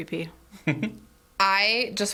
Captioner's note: laughs